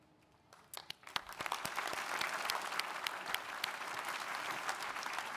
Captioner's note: audience applauding